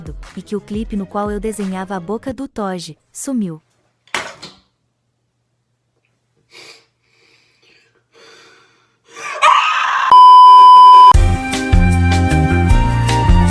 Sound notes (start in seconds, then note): 6.5 takes a deep breath; 9.1 screams